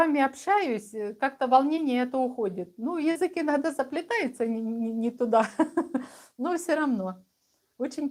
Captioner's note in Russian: смех